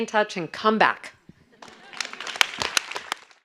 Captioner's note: audience applause